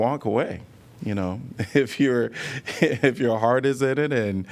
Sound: laughter

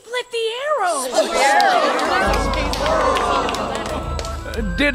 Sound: more cheering and applause

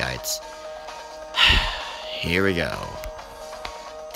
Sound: sigh

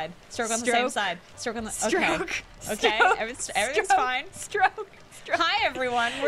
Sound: laughing

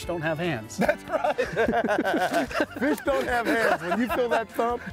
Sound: both laughing

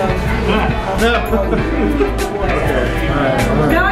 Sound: chuckling

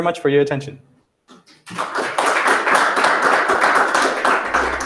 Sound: applause

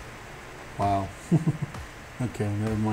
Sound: chuckles

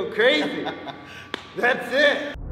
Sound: laugh

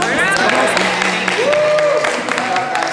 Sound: cheering

